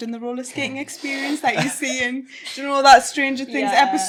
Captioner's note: everyone chuckling